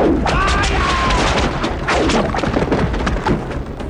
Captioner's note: yells